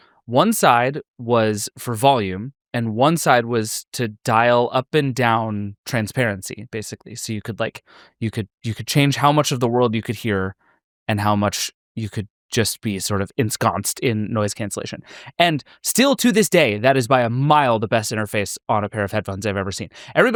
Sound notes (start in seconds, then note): none